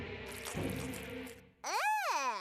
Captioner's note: rustling